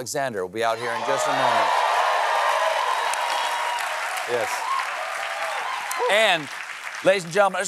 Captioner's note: cheers and applause